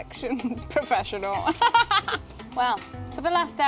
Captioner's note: laugh